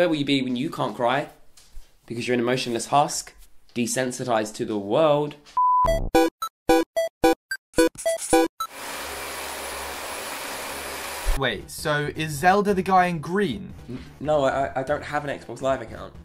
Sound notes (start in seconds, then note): 5.5 upbeat electronic music; 8.6 vacuum running